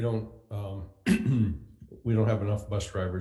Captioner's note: clears throat